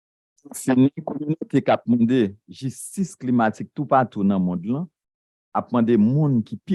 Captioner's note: speaking a foreign language